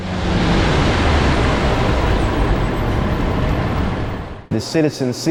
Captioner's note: truck humming